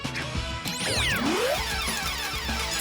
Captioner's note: winning bells ding